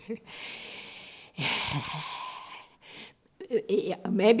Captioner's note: sighing